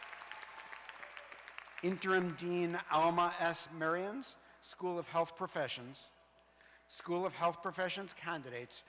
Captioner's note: cheers and applause